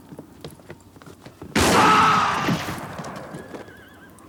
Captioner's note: gun fires; town member screams; horse neighs